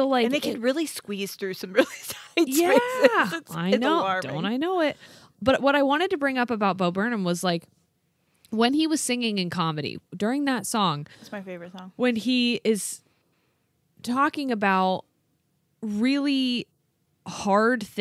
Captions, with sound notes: - And they could really squeeze through some really tight spaces. (laughs) It's alarming. - Yeah! Don't I know it, but what I wanted to bring up about Bo Burnham was like, when he was singing in Comedy, during that song-- - That's my favorite song. - When he is talking about really hard things--